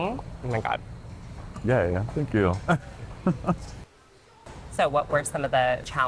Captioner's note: laughs